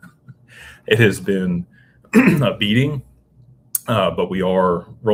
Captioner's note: laughter; clears throat